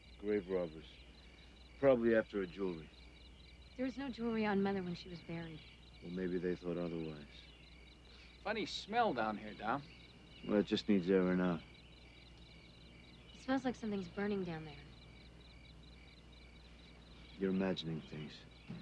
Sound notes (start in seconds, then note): 8.1 sniffs